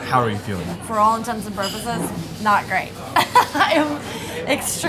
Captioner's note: laughs